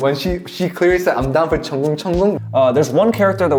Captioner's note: splashing